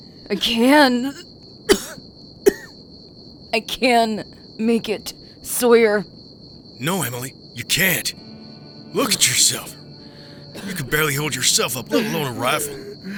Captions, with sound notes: I can... [Emily coughs] I can make it, Sawyer. No Emily. You can't... Look at yourself. You can barely hold yourself up, let alone a rifle!